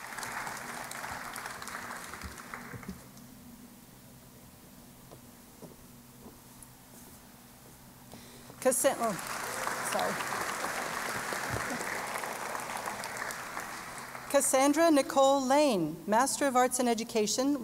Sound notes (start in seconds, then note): 11.5 applause